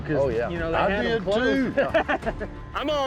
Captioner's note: laughter